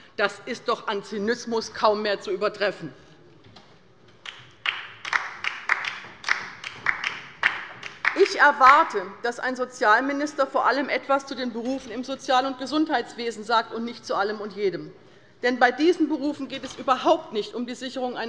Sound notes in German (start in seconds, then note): 4.2 Beifall bei der LINKEN